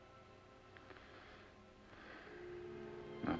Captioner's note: sighs